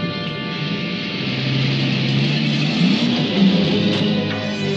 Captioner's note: engine revs